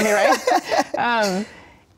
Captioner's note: Issa laughing